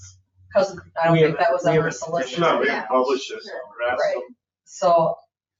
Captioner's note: people chattering